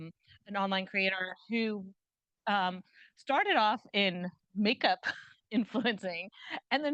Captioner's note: chuckles